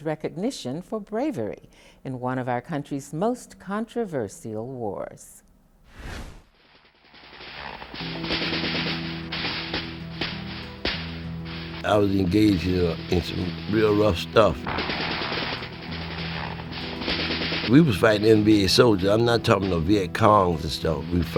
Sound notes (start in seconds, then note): 7.4 guns firing; 14.6 guns firing and helicopters